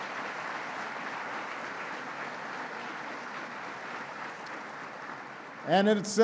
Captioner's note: applause